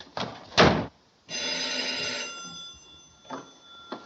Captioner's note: phone Rings